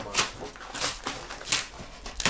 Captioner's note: tearing noises